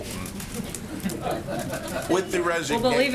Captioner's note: laughter